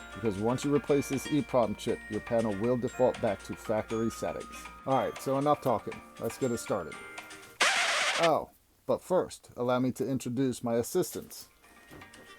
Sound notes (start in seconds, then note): 7.6 record scratching